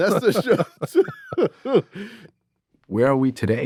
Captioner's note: everyone laughing